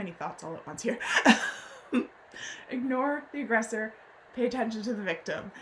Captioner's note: laughs